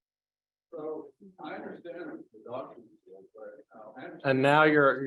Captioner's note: microphone muted